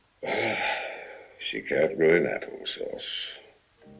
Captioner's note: sighs